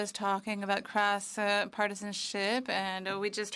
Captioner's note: speaking French